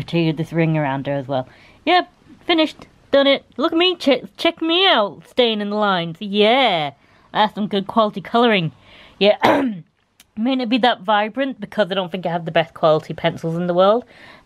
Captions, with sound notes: with this ring around her as well. Yep, finished! Done it. Look at me, check, check me out staying in the lines. Yeah! That's some good quality colouring. Yeah *ahem* It may not be that vibrant, because I don't think I have the best quality pencils in the world